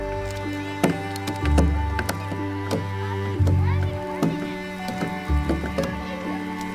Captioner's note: ethereal music continues; many tools banging